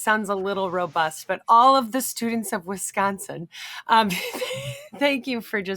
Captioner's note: laughs